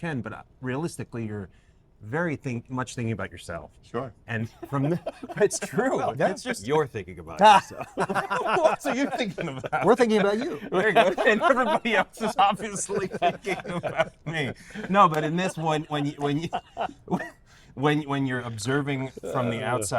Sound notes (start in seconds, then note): 8.0 laughs